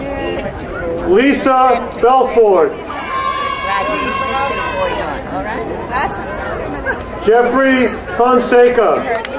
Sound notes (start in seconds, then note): 2.9 crowd cheering; 9.1 crowd applauding